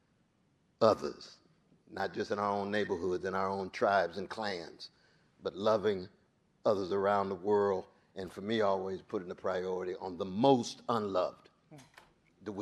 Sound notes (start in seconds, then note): none